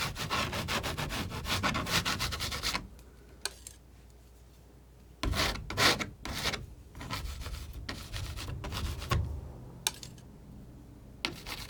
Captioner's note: scratching